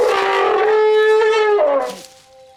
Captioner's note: trumpeting